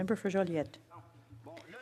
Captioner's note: speaking French